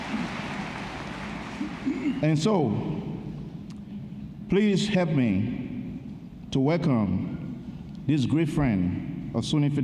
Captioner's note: applause